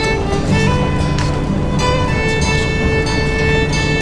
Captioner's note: people chattering